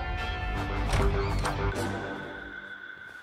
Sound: door opens

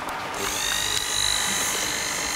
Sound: soft whirring

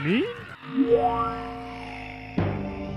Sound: growl

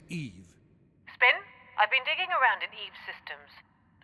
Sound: radio

